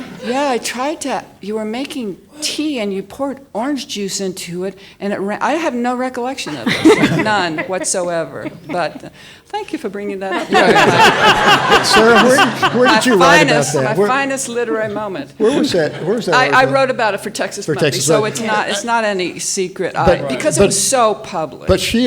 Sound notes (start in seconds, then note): 10.3 audience laughs